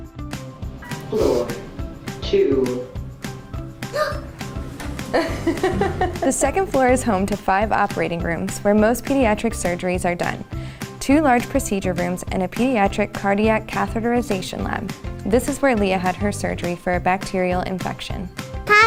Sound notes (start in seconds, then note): 1.0 elevator voice; 5.1 laughter